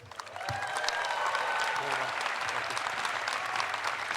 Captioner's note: audience applauds